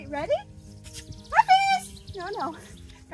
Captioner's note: kiss/lip smacking sounds sounds